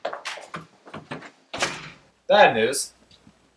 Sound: door slam

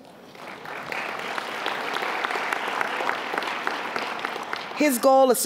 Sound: applause

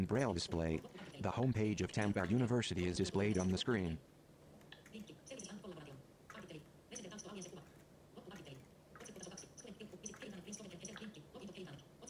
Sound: fast speech of a screen reader

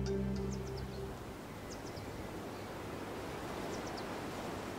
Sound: bright music; birds chirping

